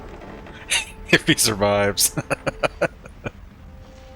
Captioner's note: laughing; chuckling